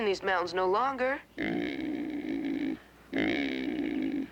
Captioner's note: grunting